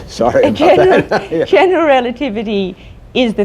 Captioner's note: laughter